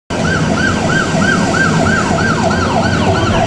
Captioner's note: sirens